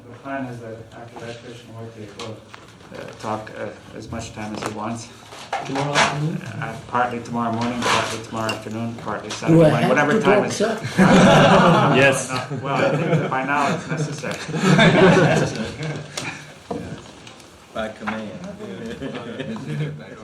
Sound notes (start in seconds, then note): 15.0 laughter; 18.6 laughs